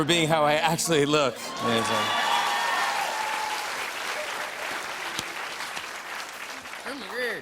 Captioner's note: cheers and applause